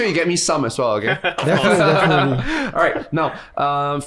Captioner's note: guys laugh